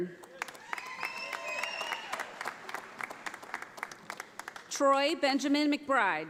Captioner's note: audience applauding